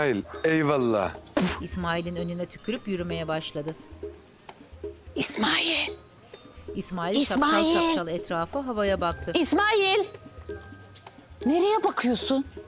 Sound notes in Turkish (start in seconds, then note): 1.3 Tükürme sesi